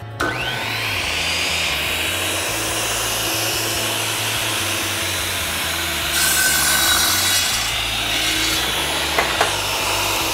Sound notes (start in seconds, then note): 0.6 saw buzzing